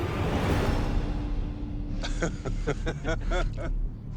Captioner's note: laughs